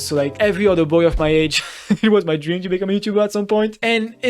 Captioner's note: chuckle